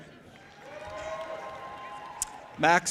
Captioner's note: audience applauding and cheering